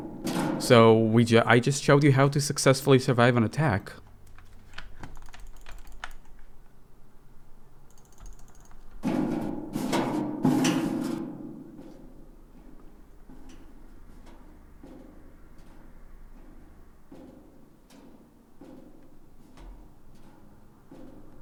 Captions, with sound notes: So, I just showed you how to successfully survive an attack. *gate clicks* *vent noises*